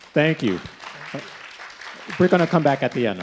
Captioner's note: people clapping